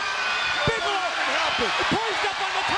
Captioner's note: crowd cheers